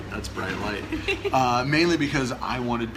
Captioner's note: laughing